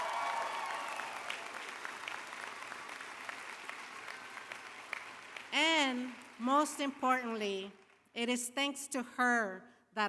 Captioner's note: applause